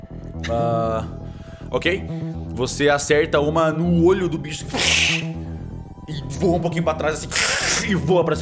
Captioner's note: batmoth noise